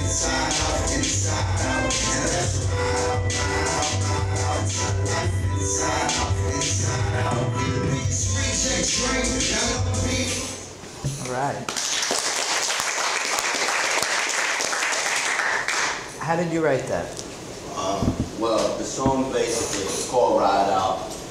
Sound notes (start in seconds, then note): 11.6 applause